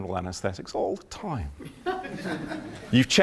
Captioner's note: laughter